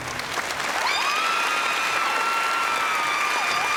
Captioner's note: screaming